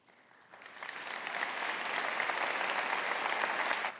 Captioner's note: audience applauding